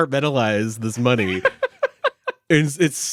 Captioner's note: laughing